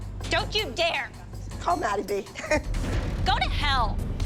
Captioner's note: Abby laughs